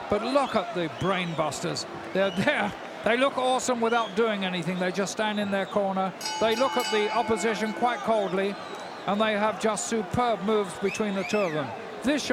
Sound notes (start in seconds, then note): 6.2 bell dings